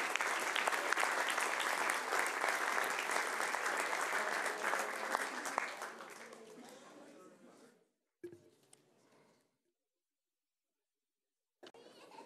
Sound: applause

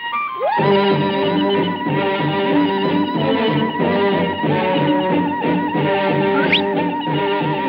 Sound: whooping

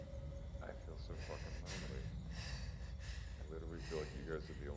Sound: soft chattering

